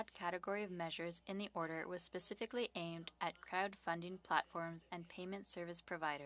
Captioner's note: speaking French